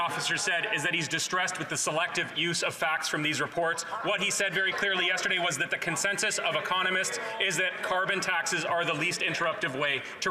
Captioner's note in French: voix de l'interprète